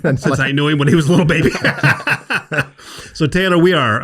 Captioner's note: everyone laughs